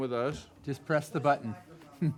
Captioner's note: all laughing